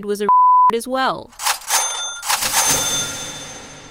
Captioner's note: series of venmo sounds